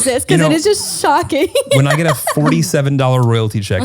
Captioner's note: laughs